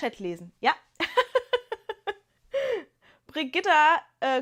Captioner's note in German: gelächter